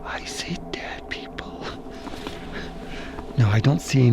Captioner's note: chuckles